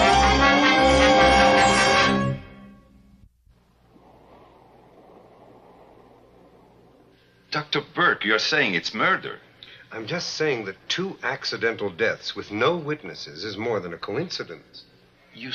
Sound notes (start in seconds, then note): 3.3 wind whirring